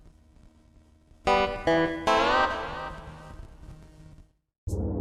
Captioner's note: static noises in the background